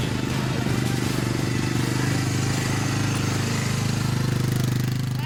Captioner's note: ATV engine roaring